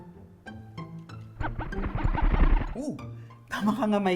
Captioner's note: mind-blower noises